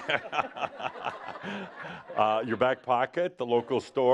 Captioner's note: laughter